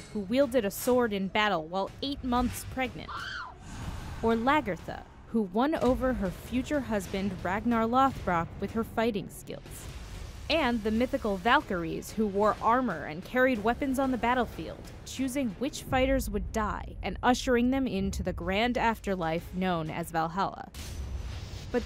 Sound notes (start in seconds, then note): 3.0 screams